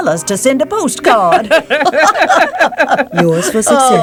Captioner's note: laughing